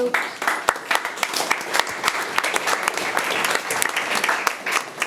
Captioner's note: audience applauding